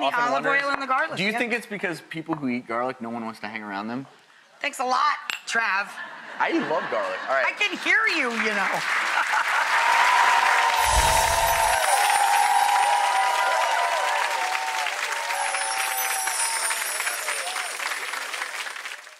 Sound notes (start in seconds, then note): 10.1 clapping and laughing